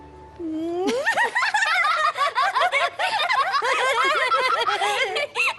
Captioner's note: raucous laughter